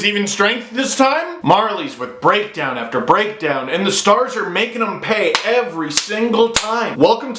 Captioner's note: clap